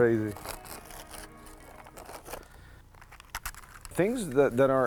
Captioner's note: paper crinkling